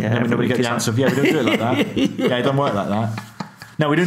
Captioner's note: laughing